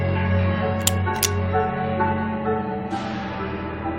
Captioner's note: gun cocking